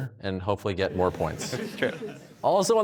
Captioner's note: audience laughs